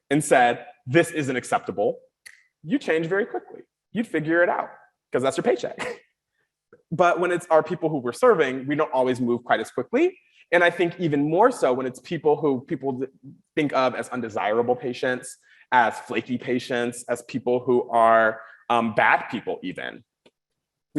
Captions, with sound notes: and said, "This isn't acceptable," you'd change very quickly, you'd figure it out, 'cause that's your paycheck. (chuckles) But when it's our people who we're serving, we don't always move quite as quickly. And I think even more so when it's people who, people that think of as undesirable patients, as flaky patients, as people who are bad people even,